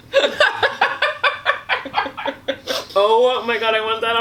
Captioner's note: laughing